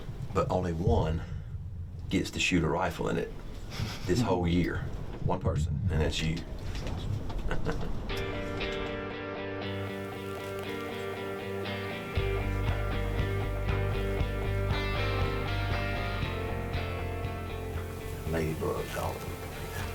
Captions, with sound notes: but only one gets to shoot a rifle in it this whole year. One person, and it's you. (chuckles) (mid-tempo music) Ladybugs all over the place.